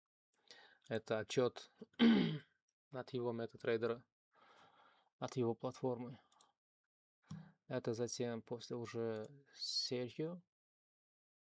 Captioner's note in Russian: откашливается